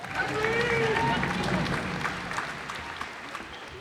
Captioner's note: cheers and applause